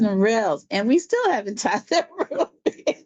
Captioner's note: laughs